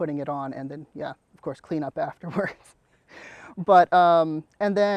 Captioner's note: laughs